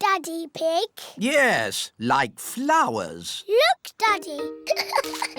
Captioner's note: giggles